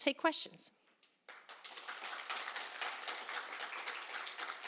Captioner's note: applause